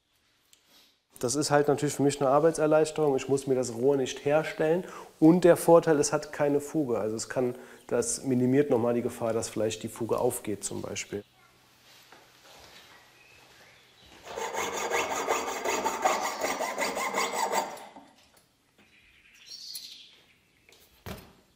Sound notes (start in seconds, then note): 14.2 sawing noises; 18.8 birds chirping